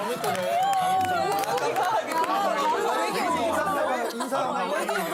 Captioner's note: her voice changes in front of a brainy guy